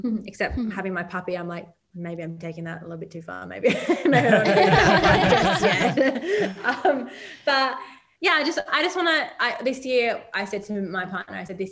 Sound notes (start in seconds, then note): 3.7 all laugh